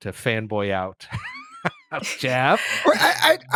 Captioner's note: laughter